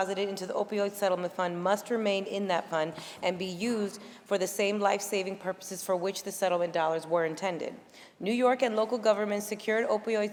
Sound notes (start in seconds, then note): none